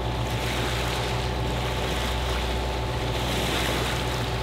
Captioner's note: water rushing